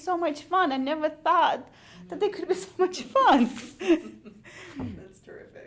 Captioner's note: laughs